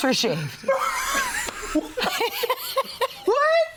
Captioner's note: all laughing